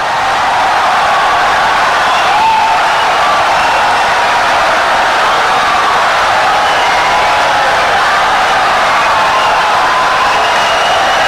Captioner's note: wild applause and cheering for 17 seconds